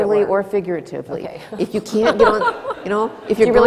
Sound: laughter

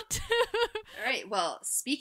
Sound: laughing

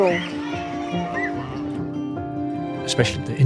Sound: children cheering

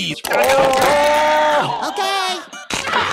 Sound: Squidward screaming

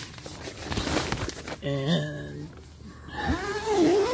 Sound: zipping

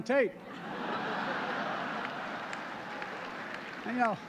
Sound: laughter

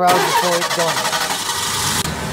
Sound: car engine starts

